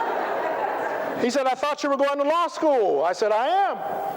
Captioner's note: laughter